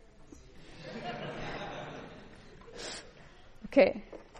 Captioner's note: laughing